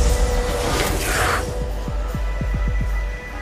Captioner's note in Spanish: resopla